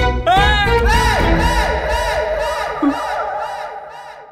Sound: screaming

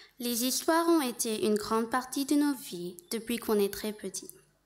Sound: speaking French

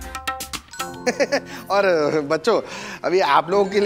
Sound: giggles

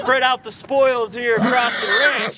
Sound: Shooter the horse neighs

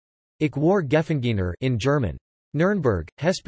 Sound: in German

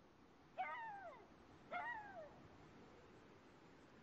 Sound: wolf howling

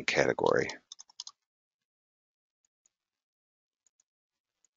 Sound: keystrokes clicking

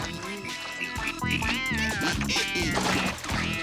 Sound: humming

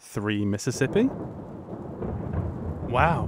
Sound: thunder

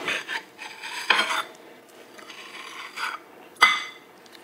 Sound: knife scraping

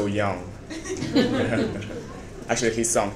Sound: members of the audience laughing

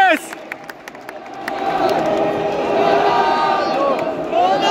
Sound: clap

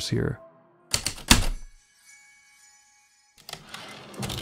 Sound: typewriter keystrokes, light chimes, typewriter return slide

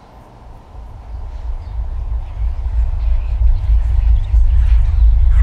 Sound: low rumble intensifies

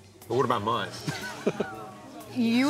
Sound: laughs

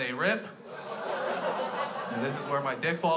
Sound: crowd laughs

